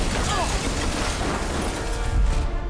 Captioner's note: boom